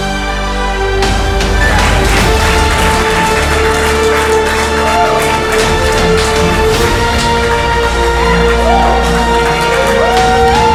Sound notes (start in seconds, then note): 3.0 applause